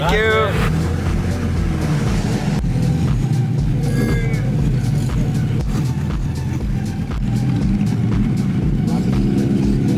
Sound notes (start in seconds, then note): 2.8 car engines revving; 2.8 upbeat music